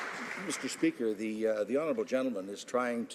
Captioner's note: some Applause